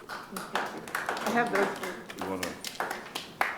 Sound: clapping

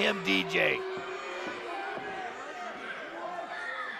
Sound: crowd booing

